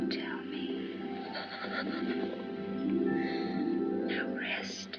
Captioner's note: lady haloran gasps